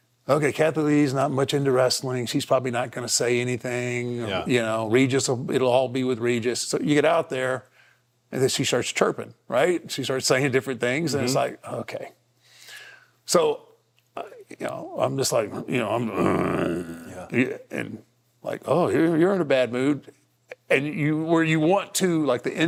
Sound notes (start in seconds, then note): 15.4 grumbles